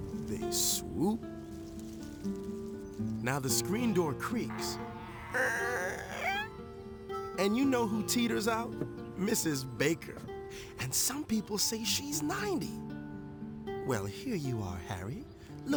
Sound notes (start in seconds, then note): 5.1 door creaking